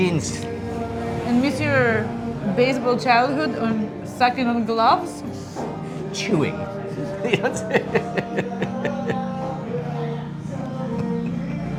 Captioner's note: laughing